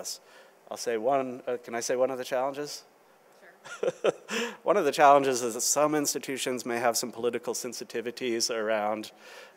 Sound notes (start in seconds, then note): 3.6 laughing